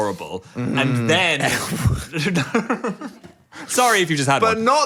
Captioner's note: both laughing